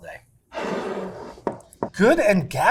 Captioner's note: jar scraping